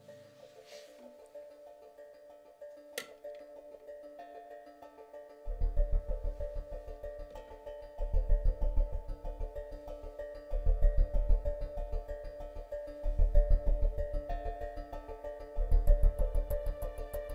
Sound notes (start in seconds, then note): none